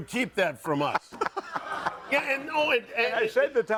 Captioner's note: audience laughing